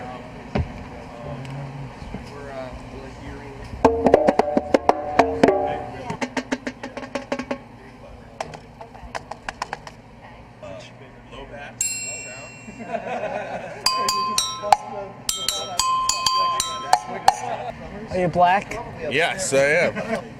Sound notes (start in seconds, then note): 3.8 light drumming; 12.3 clanking